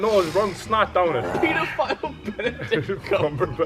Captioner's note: laugh